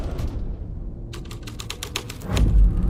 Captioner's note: suspenseful music; keyboard clacking